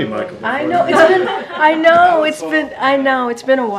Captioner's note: laughter